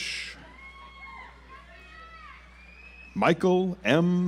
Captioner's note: audience applauds